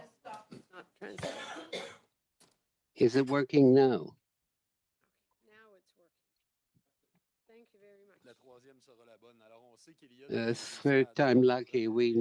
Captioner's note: speaking French